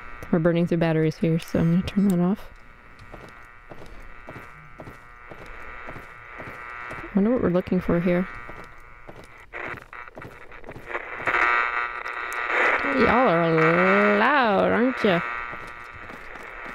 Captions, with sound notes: We're burning through batteries here, so I'm going to turn that off. I wonder what we're looking for here. [Static sound intensifies] Y'all are loud, aren't you?